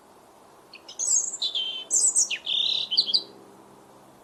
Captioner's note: birds chirps